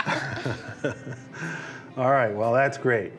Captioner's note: everyone laughs